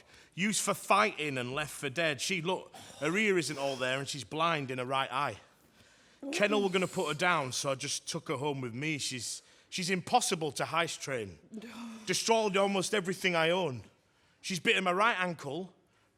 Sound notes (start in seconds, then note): 11.5 she sighs